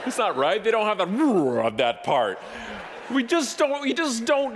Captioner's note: grumbled voice